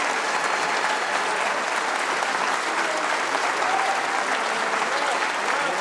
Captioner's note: audience continues cheering